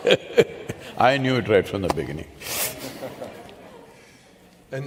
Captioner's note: laughs; few laugh